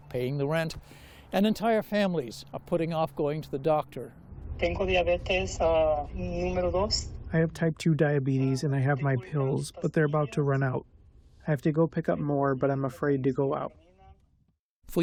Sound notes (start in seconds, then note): 4.7 through translator